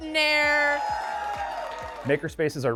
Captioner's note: all cheering